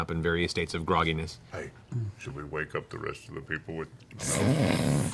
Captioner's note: whispers